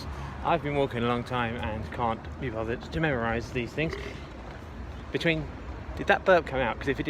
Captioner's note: someone burps